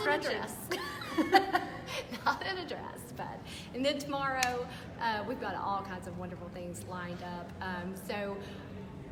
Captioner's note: laughter